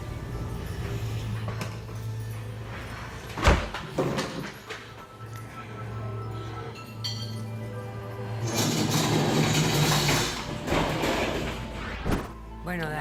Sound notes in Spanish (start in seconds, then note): 3.4 Portazo; 8.2 Ruido de la silla